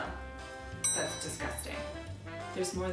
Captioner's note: bell ringing